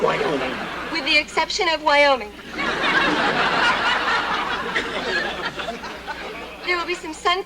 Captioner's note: laughter